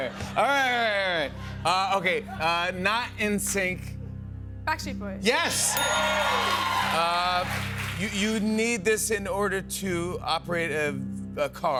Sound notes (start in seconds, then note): 5.7 ding